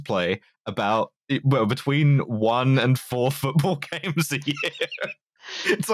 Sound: laughs

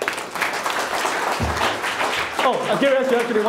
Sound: clapping

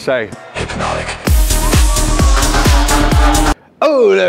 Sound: crowd cheering; high-intensity techno music

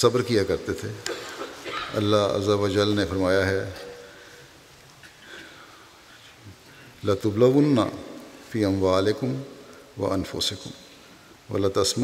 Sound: Arabic

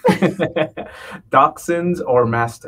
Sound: all laughing

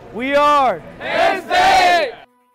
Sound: group chant

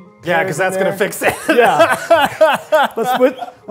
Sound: Eugene laughing

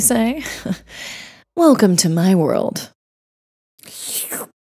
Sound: chuckles

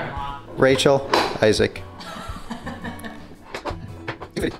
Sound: laughs

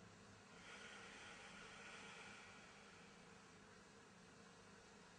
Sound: exhale

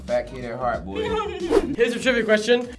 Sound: laughing

